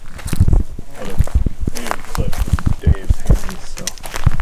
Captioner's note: murmuring